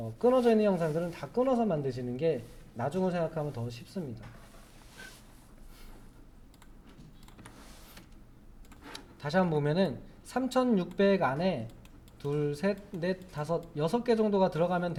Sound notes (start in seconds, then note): 5.7 silence